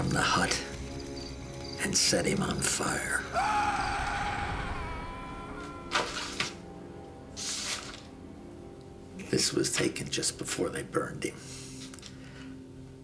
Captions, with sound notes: AND THEY DRAGGED HIM FROM THE HUT AND SET HIM ON FIRE. [man screaming] THIS WAS TAKEN JUST BEFORE THEY BURNED HIM.